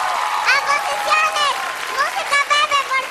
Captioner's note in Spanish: Aplausos